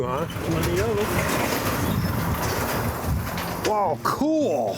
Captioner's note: garage door opening